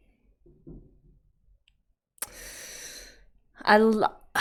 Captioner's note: sharp inhale